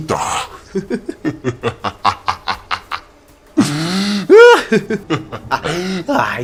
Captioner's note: laugh